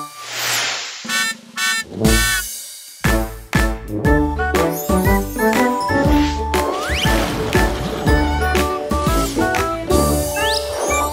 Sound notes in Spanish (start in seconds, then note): 0.8 Sonido de bocina; 2.9 Música alegre